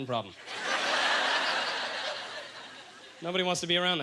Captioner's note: audience laughter